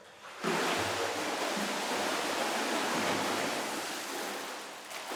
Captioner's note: water splashing